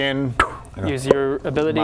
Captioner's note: pop